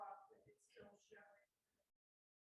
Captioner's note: voice muffling